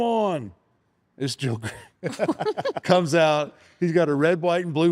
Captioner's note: chuckles